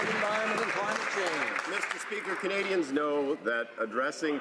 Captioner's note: some Applause